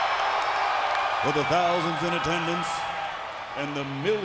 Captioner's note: crowd cheering